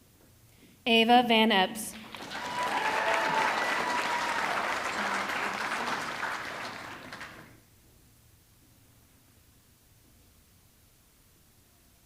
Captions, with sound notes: Ava Van Epps, (audience clapping) (audience cheering)